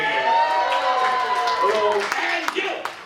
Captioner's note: applause and cheering